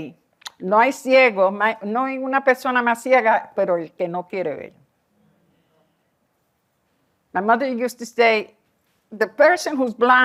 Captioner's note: non-english